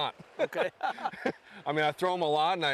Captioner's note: laughter